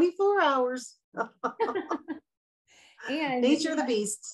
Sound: laughs

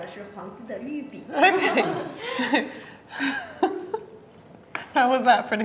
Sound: laughs

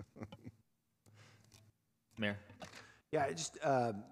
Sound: laughter

